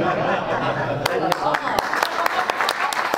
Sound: audience laughs; audience and panelists applaud; faintly speaking

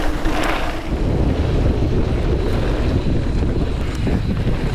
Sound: wind blows

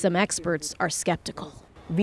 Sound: speaking alternate language

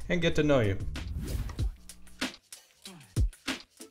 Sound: air whooshing

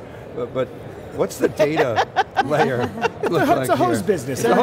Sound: all laughing

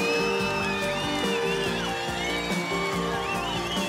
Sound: cheering

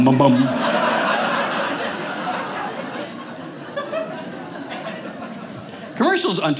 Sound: audience laughing

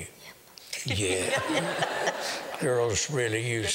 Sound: laughter

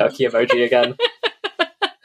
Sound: laughs

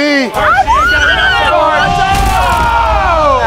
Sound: screaming

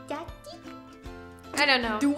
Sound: baby voice

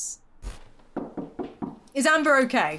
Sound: door knocking

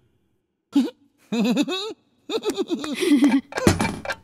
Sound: tick-Tock; laughter

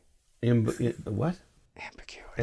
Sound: whispers

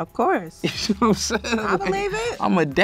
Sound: laughs

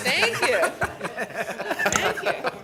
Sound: laughing

